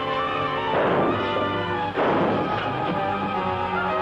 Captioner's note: gunshots